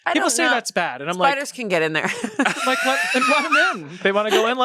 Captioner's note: laughs